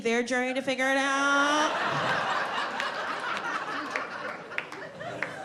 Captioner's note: audience laughing